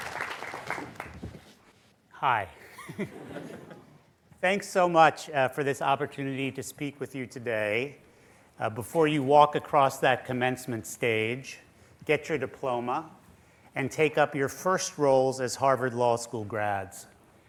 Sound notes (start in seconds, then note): 2.6 laughter